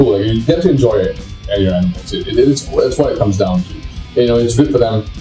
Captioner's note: stammers